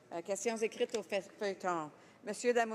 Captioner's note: speaking French